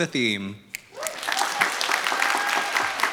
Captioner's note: applause